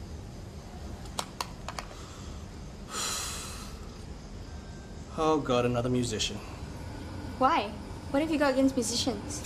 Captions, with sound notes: [exhaling] Oh God. Another musician. Why? What have you got against musicians?